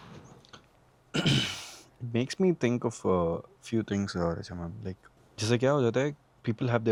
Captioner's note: clears throat